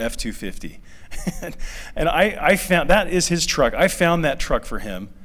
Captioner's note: laughter